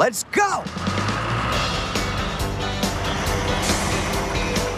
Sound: engines Rev

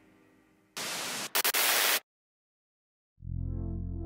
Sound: static hissing; gentle music

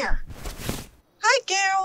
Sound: cloth rustle

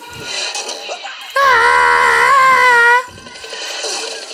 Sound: screaming

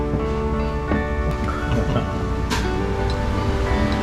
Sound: laughing

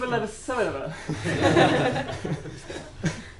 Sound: laughter

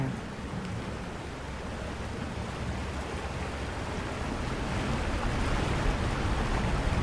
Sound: water falling

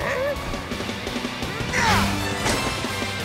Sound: grunting

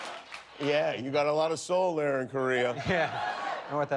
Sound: cheers and applause

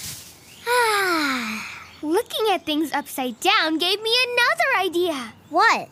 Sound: sighs

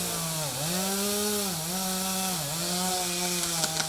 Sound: chainsaw buzzing

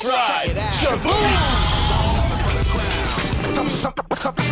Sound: Blue roaring

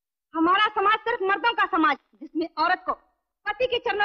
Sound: none

